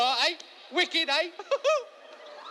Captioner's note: laughs